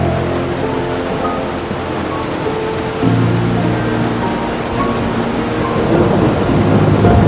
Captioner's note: rain splashing; thunder rumbling